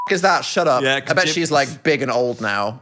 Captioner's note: beep